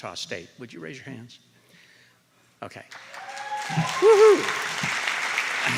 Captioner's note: applause